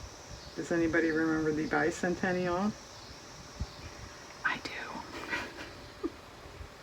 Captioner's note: whispers; laughs